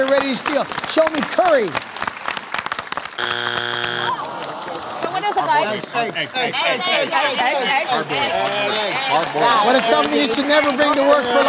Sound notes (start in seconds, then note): 3.2 buzzer sounds; 6.9 shouting answers